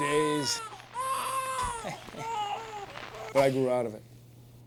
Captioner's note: crying